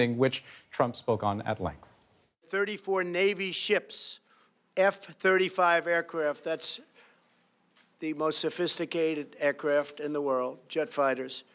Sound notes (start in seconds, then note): none